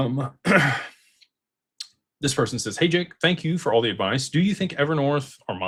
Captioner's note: clears throat